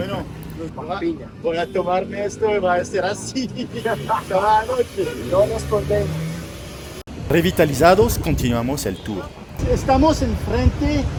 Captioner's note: laugh